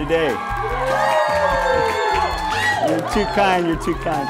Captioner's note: audience cheers